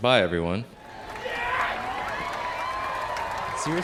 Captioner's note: cheering